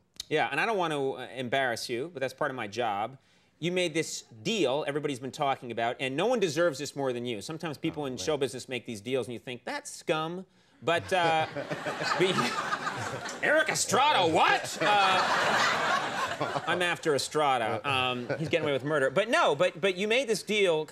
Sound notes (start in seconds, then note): 12.8 audience laughing; 15.2 audience laughing